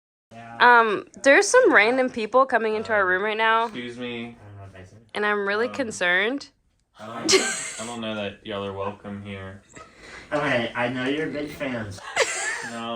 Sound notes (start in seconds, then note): 7.1 laughs; 12.0 laughs